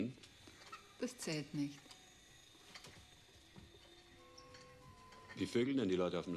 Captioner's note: speaking german